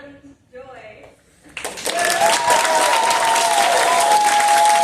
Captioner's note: applause